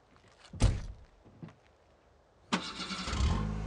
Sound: door slamming; car engine starting

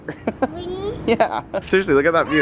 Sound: laughs

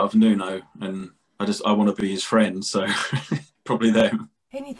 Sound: laughter

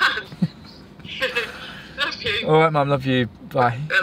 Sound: laughs

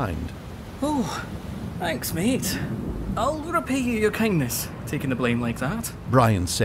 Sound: phew

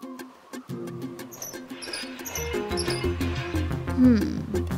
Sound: pump creaking

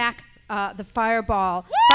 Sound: cheers

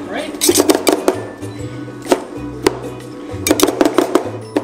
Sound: spatulas chopping

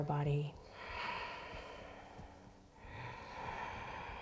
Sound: breathing

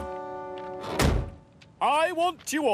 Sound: car door slams

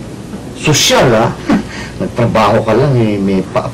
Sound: chuckles

